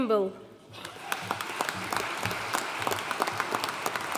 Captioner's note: audience applauding